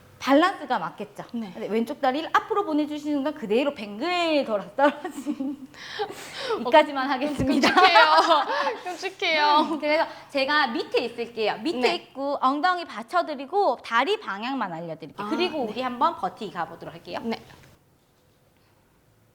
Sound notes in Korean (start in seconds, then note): 4.8 웃음; 5.7 헉 소리